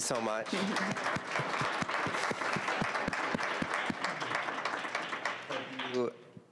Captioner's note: applause